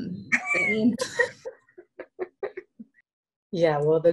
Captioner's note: laughing